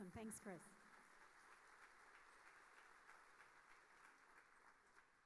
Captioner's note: audience applauding